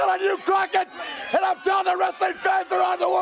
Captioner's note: crowd cheering